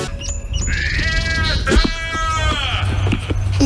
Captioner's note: scream afar